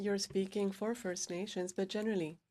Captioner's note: speaking French